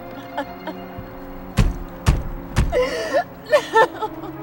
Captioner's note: sobbing